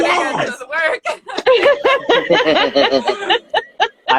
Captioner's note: laughing